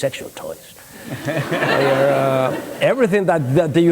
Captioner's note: laughter